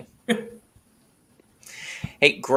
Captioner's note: laughs